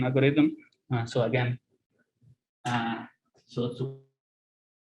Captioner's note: sound distorted